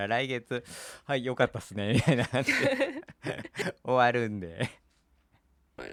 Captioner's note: laughs